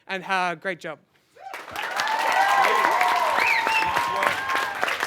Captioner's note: cheering and Applause